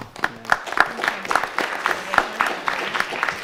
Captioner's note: applause